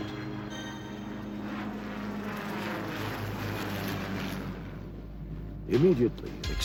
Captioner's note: helicopter buzzing